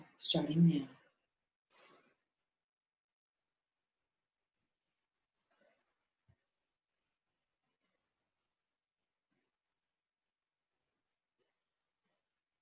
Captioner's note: sounds of slow breathing, in and out 5x